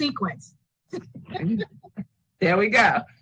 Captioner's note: all laughing